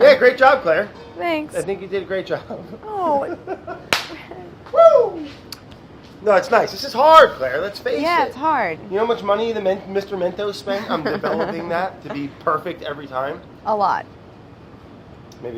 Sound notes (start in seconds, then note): 3.9 claps; 4.0 whooping